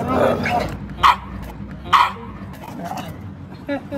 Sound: woof!

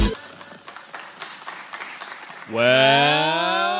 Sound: clapping

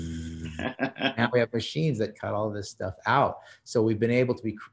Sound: laughs

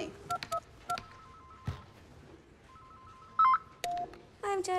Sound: phone ringing

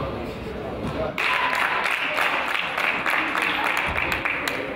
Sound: crowd applauds

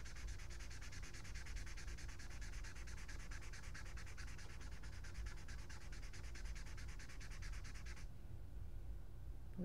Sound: satisfying marker swipe sounds

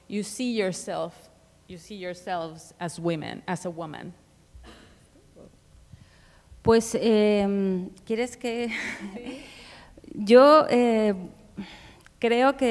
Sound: speaking Spanish

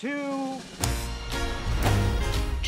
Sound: jazz music plays; clapper board claps

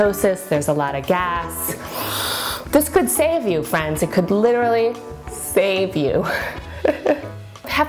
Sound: breathes in; laughs

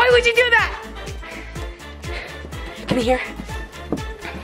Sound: heavy breathing

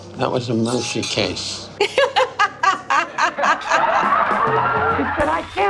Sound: laughing

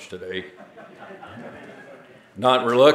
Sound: audience laughing

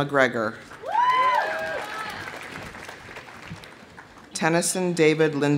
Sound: audience applauding; audience cheering

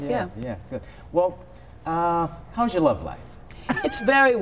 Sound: laughter

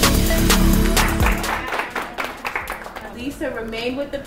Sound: class clapping

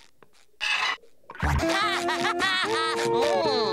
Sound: laughing

